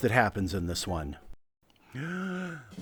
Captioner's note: deep breath